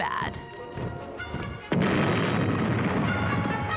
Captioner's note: artillery fire